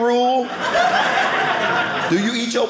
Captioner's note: audience laughing